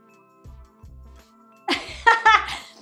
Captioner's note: laughing